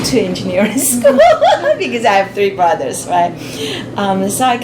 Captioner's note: laughs